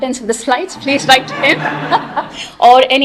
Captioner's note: laughter